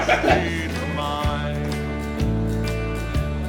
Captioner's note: Jake laughing